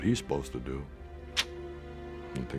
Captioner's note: sucks teeth